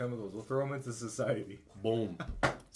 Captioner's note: laughs